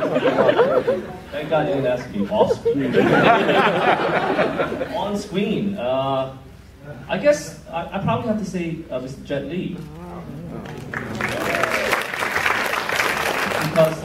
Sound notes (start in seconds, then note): 2.3 laughter; 10.7 applause